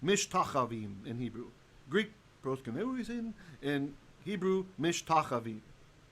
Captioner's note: Hebrew